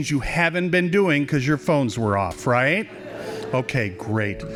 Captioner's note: laughing